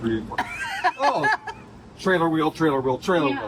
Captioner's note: laughs